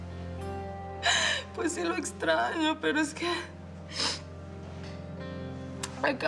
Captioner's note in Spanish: Sollozos